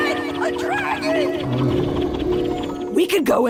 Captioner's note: dragon roars